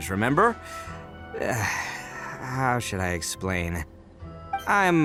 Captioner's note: sigh